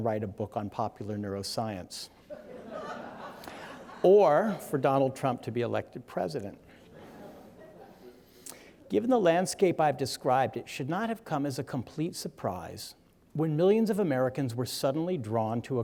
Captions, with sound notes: and write a book on popular neuroscience. (audience laughing) Or, for Donald Trump to be elected president. Given the landscape I've described, it should not have come as a complete surprise when millions of Americans were suddenly drawn